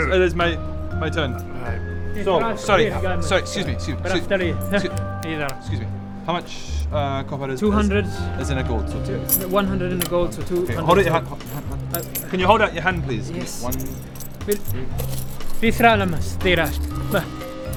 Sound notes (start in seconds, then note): 3.7 something highly offensive in Elvish